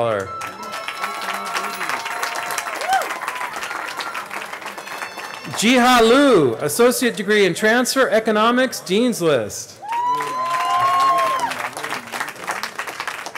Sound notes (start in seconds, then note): 5.5 cheering; 9.8 cheering